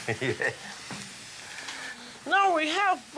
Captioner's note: laughs